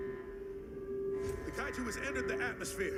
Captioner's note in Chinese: 机器轰鸣声; 警报声